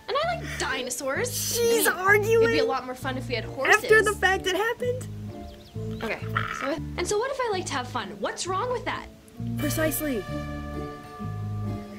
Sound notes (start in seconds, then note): 6.0 gremlin voice